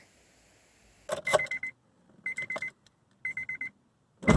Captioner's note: sound of key going into the ignition switch; sound of door chime beeping; sound of door closing